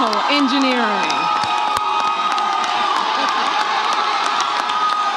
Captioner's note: audience cheers